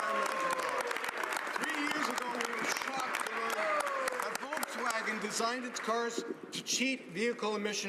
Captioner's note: some Applause